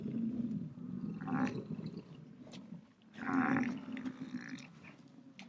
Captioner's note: buffalo grunting